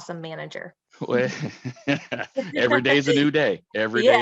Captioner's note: laughs